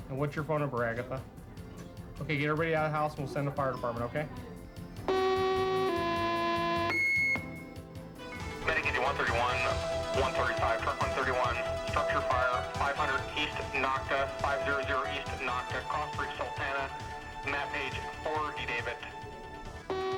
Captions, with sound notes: AND WHAT'S YOUR PHONE NUMBER, AGATHA? OK, GET EVERYBODY OUT OF THE HOUSE, AND WE'LL SEND THE FIRE DEPARTMENT, OK? [ALARM BLARES] 131. 135, TRUCK 131. STRUCTURE FIRE. 500 EAST NOCKA. FIVE-ZERO-ZERO EAST NOCKA, CROSS STREET SALTANA. MAP PAGE 4 D-DAVID.